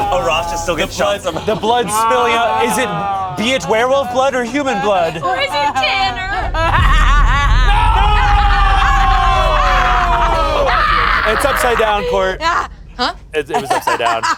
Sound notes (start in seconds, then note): 6.9 laughing; 6.9 sobbing; 10.0 laughing; 13.5 laughs